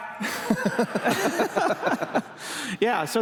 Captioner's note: laughter